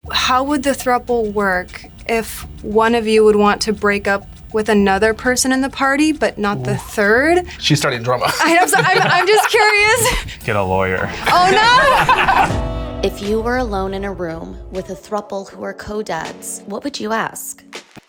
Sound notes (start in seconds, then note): 11.0 laughs